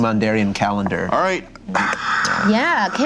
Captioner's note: heavy sigh